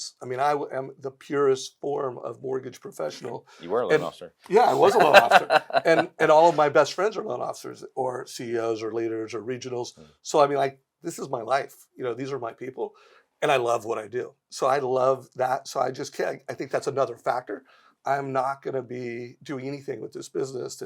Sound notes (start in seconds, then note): 4.6 chuckles